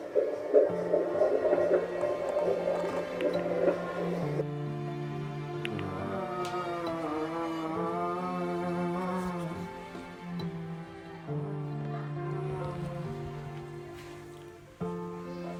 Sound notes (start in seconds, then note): 0.1 cardiocotography sound, heartbeat; 4.8 groan